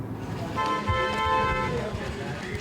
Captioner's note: horn honking